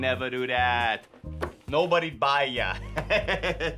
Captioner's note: laughs